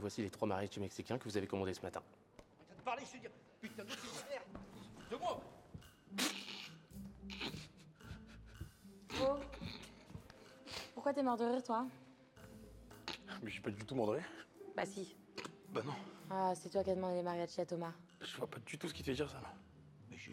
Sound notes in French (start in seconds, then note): 3.7 rire